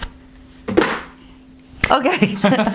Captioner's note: thud